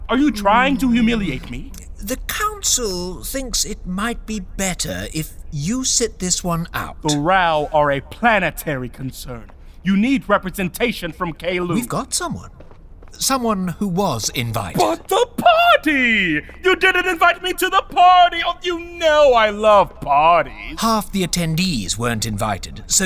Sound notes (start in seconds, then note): 15.2 sarcastic